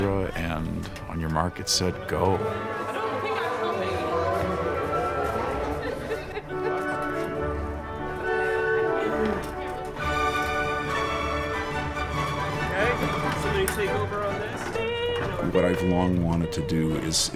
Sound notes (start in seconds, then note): 2.9 people chattering; 2.9 rapid classical music